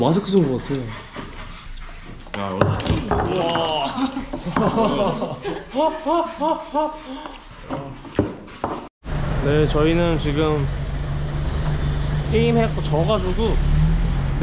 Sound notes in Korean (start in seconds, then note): 2.4 우당탕탕